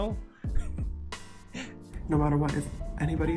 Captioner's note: confused laugh